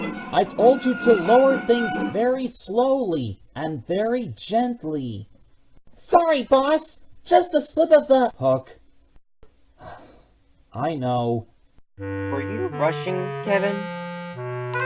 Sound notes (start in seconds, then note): 9.8 sigh